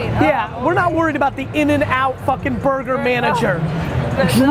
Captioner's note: none